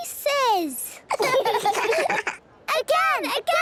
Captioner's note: children laughing